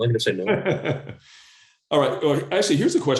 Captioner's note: laughs